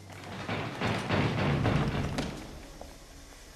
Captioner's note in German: Hämmern an der Tür